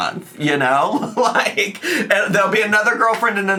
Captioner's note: laughing